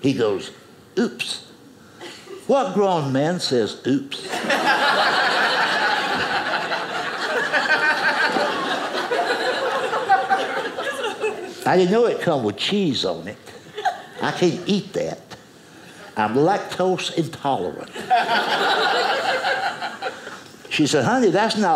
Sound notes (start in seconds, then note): 4.2 audience laughing; 17.9 audience laughing